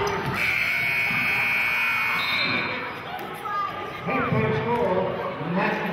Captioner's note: buzzer sounding and whistling